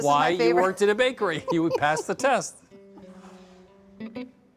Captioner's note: laughing